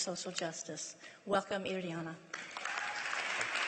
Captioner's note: applause